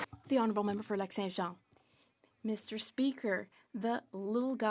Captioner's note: some Applause; speaking French